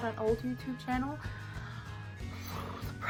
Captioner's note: weird noise with mouth